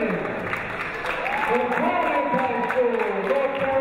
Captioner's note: clapping; cheering